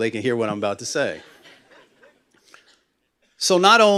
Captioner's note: laughter